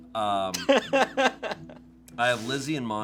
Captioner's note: laughs